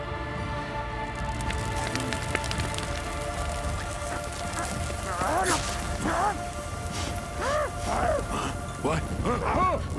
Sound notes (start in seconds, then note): 2.2 crackling sound